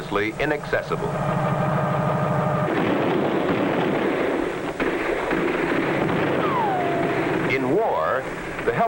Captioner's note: helicopter blades whirring